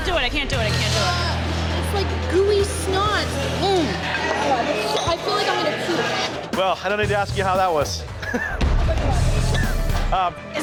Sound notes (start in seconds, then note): 3.7 moans; 8.1 chuckles; 8.7 intense music